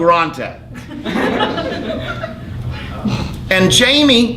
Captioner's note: laughing